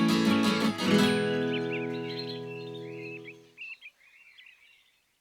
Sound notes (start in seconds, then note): 2.0 birds chirping